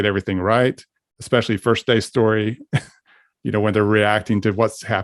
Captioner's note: laughs